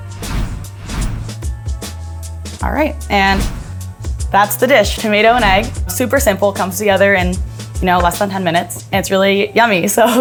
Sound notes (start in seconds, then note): 0.0 color flourishes whooshing; 3.1 color flourish whooshing